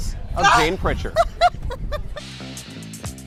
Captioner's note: laughs